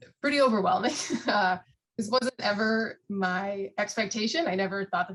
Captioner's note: laughs